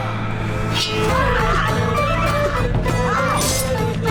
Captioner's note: both moaning; swords clanging